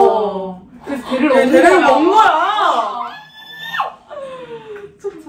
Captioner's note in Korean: 오열